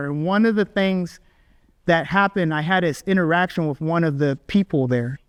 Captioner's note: none